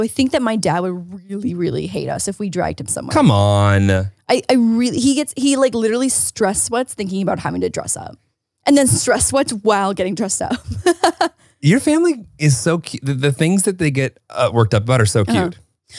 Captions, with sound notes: And so I think that my dad would really, really hate us if we dragged him somewhere. - Come on. - He literally stress sweats thinking about having to dress up, and then stress what's while getting dressed up (laughs). - Your family is so cute, the things that they get worked up about are so cute.